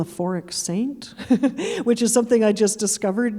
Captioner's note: chuckling